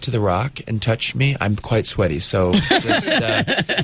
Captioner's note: Uzo and interviewer laugh